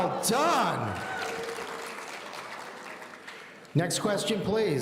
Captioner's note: audience applauding